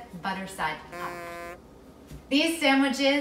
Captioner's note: buzzer rings